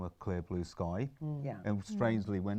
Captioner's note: murmurs in agreement